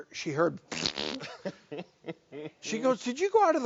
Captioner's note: fart noise